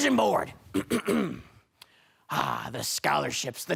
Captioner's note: clears throat